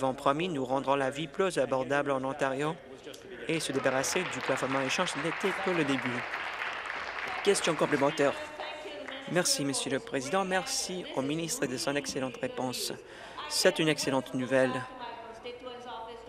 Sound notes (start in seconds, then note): 7.6 applause